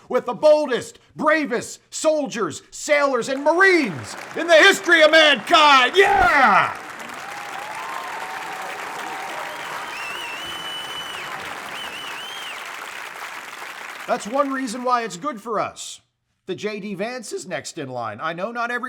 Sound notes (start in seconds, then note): 9.1 applause, cheers